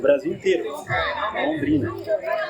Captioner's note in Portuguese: barulho da plateia se dispersando ao fundo